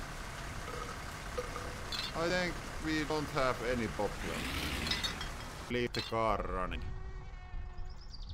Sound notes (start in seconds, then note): 0.5 Belch